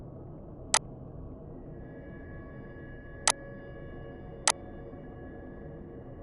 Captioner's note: gentle ominous music; mouse clicking